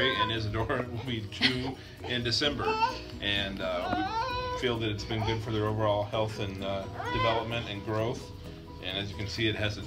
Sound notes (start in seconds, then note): 3.7 fussing